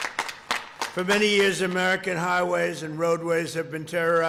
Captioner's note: applause